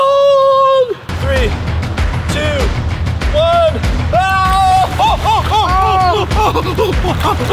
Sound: screams

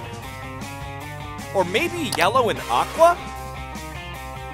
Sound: none

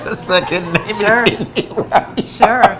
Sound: laughing

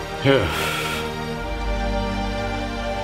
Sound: sighs

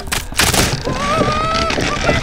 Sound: humming

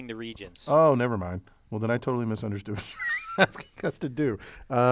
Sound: laugh

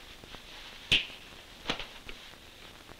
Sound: snaps finger

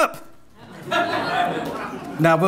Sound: audience laughing

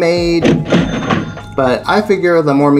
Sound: cash register sound

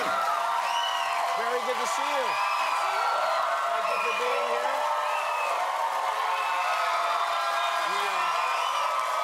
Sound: cheers and applause

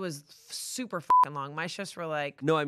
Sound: beep

